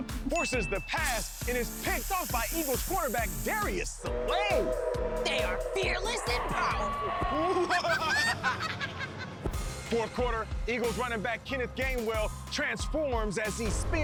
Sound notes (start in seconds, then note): 6.9 laughs ominously